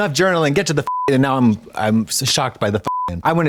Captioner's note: beep; beep